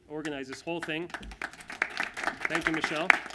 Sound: applause

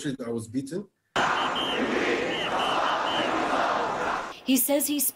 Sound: shouting

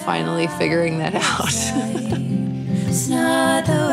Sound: laughter

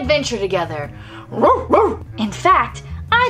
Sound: barking

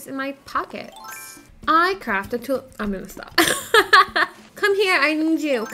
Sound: laughing

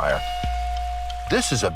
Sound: foreboding zing

